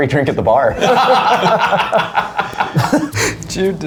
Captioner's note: all laughing